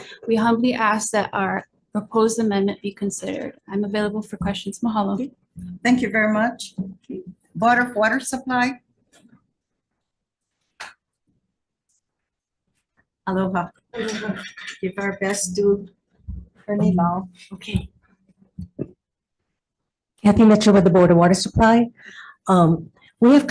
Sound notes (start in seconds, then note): 16.3 faintly speaking